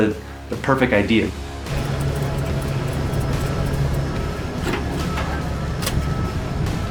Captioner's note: engine revving; metal clanking